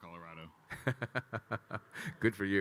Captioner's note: Kyle laughing